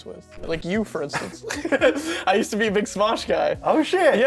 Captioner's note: chuckles